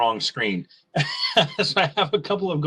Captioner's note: laughing